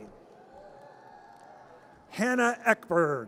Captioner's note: audience cheers